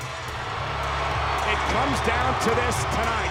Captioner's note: crowd boos